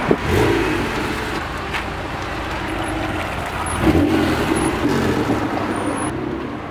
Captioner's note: 246's roar mufflers